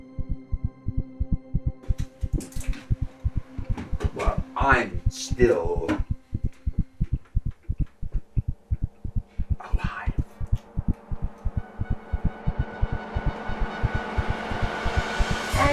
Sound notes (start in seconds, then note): 1.2 intense music; 1.2 rapid heart beats